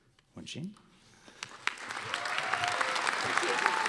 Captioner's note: applause